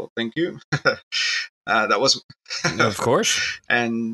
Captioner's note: laughs